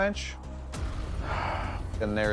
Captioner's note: sighs